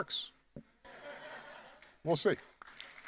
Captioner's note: audience laughing